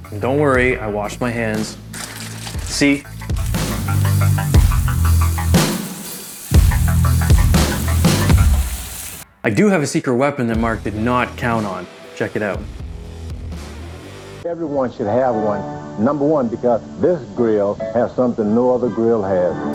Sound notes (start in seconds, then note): 3.3 water splashing; 4.4 meat sizzling